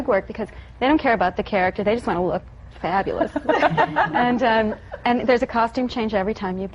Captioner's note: laughter